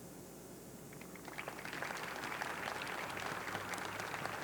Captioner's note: audience clapping